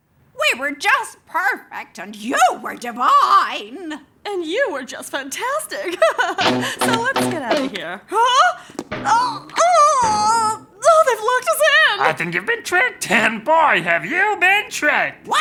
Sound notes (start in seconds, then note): 5.9 laughs; 9.5 grunts